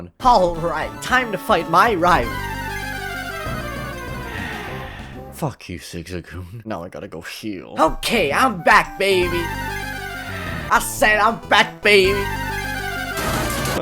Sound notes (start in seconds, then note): 3.8 sighs